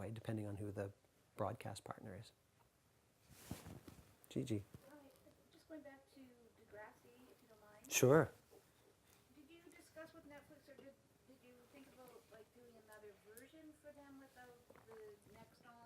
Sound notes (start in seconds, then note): 5.6 voiceover; 9.3 voiceover